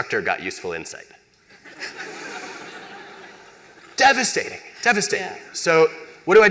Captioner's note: laughter